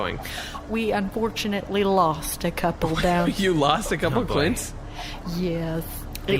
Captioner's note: laughing